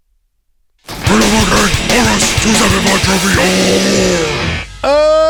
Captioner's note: demonic Voice